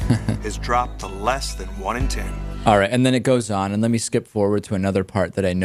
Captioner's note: laughs